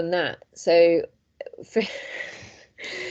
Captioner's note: laughs